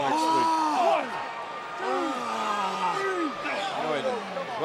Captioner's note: wrestler groaning